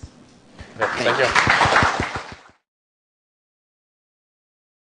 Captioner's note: audience applauding